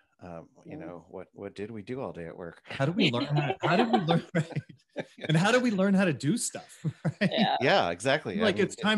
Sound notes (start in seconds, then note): 3.0 laughs; 3.1 all laughing; 6.5 laughs